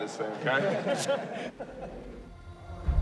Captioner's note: all laugh